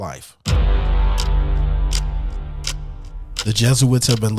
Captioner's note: dramatic music begins; clock ticking